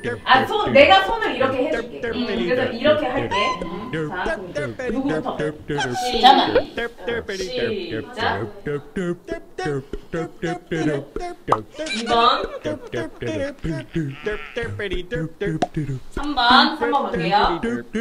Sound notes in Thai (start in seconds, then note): 9.9 ขำ